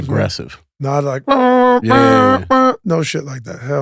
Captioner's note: Maverick makes sharp alarm sounds